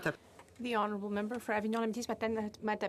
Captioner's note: speaking FRENCH